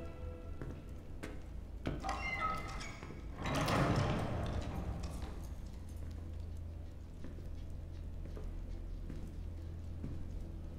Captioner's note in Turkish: Adım sesleri